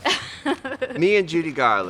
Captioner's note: laughs